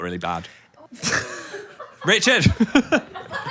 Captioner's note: group laughs